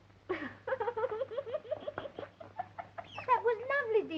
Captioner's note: crying